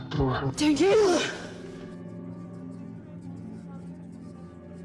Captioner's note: whispering